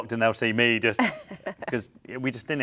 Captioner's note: laughs